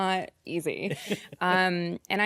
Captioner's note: coy chuckles